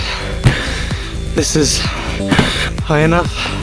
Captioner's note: out of breath